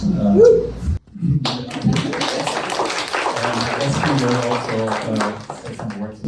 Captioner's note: clapping